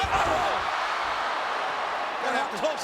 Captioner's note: spectators cheering